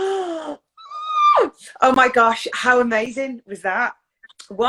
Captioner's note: inhales loudly